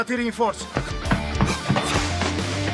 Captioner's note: guard 1 in Italian; panting